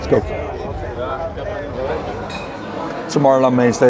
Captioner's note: people murmuring